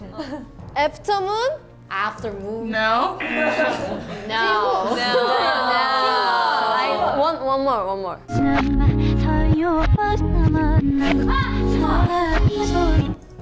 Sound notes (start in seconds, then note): 3.2 buzzer; 3.2 members laugh